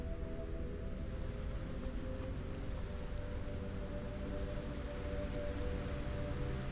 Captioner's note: solemn orchestral music continues; rain pattering; soft tense music